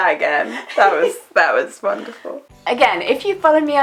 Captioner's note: laughs